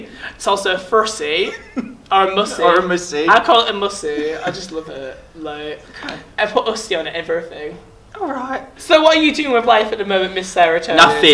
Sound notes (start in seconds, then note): 1.3 laughs; 8.1 in a high pitched voice